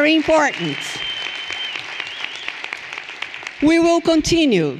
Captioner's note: everyone applauding and cheering